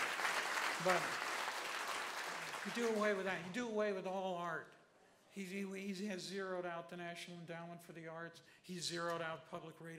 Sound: applause

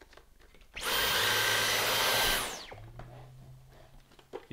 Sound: part clicking; vacuum whirring

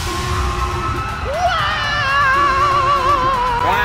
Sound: yelling

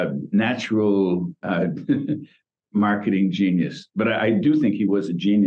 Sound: laughs

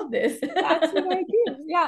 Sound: chuckles

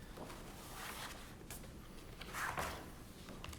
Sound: papers rustling

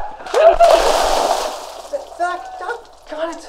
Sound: water splashes; screams

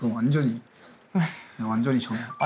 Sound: laughs

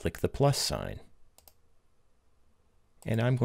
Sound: clicking

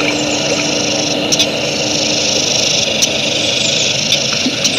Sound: humming quiets

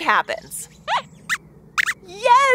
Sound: squeaks squeaks

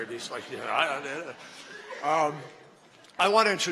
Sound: laughter

